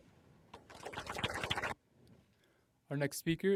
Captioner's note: applause